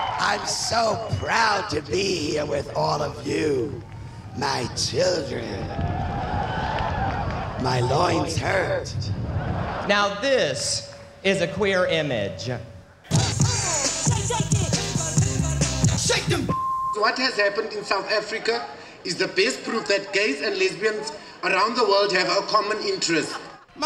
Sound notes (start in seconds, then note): 5.6 cheers; 8.8 laughter